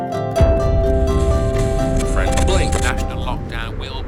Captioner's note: radio static and channels flicking